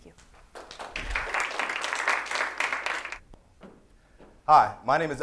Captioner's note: applause